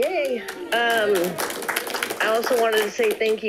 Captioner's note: audience clapping